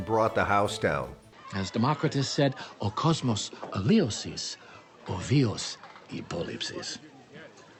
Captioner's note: speaking Greek